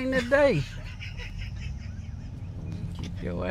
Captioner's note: laughs